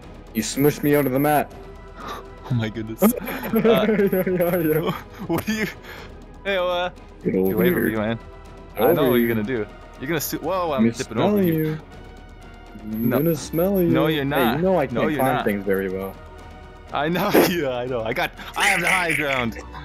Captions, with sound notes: you smushed me under the map Oh my goodness *laughing* Hey, uh, get get over here away from you man. I know get over here. what you're gonna. Do you're gonna sniff. Whoa. I'm tipping Imma smell you over here Imma smell you No, no, you're Hey you know not no I can't climb thing very well you're not I know yeah, I know I got I have the high ground